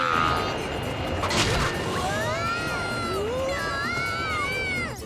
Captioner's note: both yelling